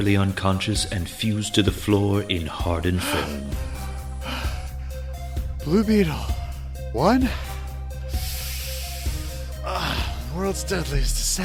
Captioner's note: panting